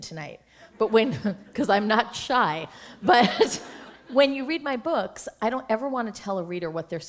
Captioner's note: laughter; chuckle